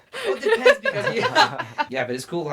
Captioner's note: everyone laughs